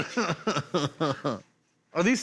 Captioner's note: laughs